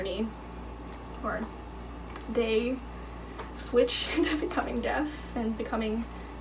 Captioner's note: chuckling